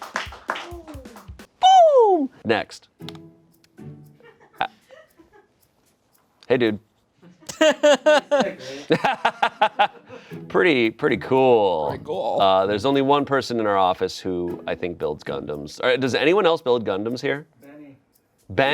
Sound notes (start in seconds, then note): 0.0 friends clap; 9.9 laughing